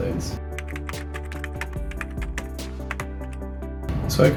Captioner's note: typing sound